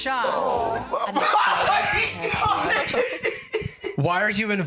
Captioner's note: screams